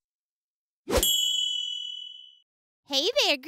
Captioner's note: ding